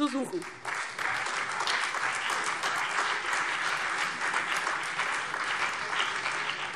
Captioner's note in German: Beifall BÜNDNIS 90/DIE GRÜNEN, Freie Demokraten und vereinzelt AfD